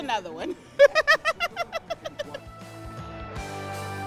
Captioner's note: laughs; upbeat music